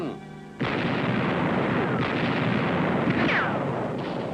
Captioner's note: artillery blasting; bullets ricochet